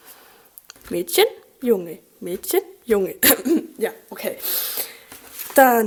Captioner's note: clears her throat